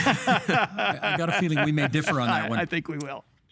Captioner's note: laughing